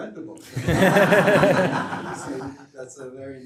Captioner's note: laughter